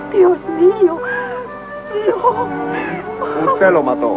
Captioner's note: sobbing